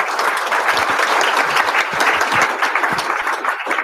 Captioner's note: applause